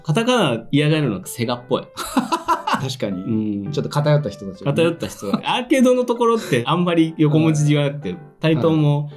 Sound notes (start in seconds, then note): 2.0 laughs